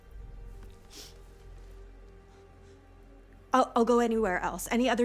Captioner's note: Dorothy sniffs